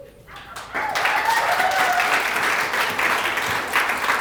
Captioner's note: applause